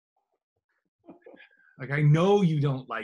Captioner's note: laughs softly